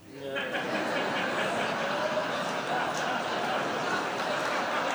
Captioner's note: audience laughs